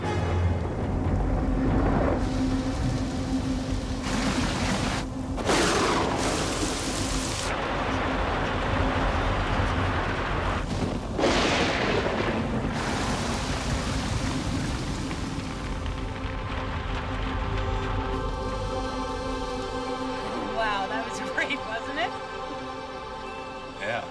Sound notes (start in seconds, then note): 0.0 dramatic orchestral music; 5.5 thunder claps; 11.3 thunder claps